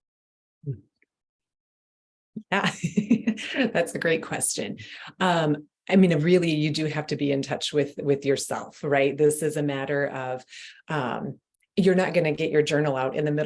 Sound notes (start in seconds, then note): 2.5 giggling